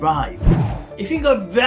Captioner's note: air swooshing